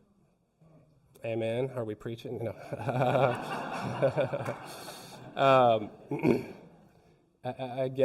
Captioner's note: laughs